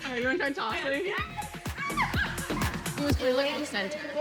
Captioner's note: laughter